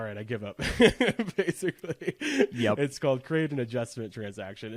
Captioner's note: laughs